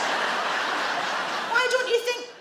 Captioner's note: audience laugh